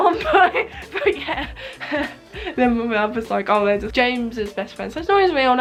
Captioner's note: laughs